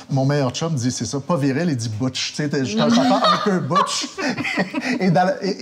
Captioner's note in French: rires